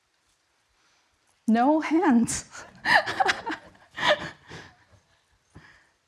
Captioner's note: chuckles